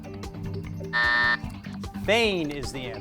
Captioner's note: buzzer buzzes